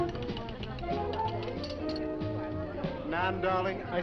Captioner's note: people chattering; upbeat music